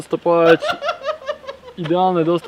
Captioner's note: laugh in background